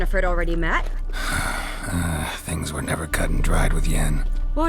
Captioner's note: sigh